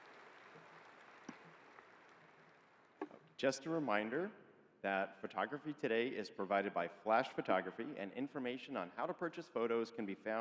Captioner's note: applause